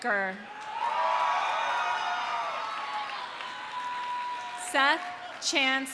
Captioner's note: audience cheering; audience applauding